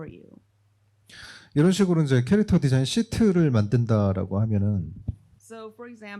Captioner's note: speaking korean